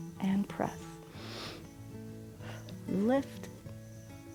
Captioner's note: inhales and exhales